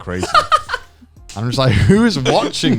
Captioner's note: Joey laughing